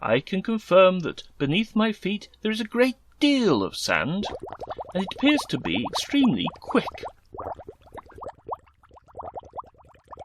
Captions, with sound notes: I can confirm that beneath my feet there is a great deal of sand, [bubbling] and it appears to be extremely quick.